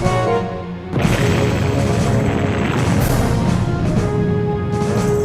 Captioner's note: bomb exploding